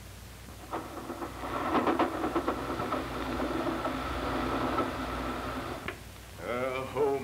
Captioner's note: train rolling along tracks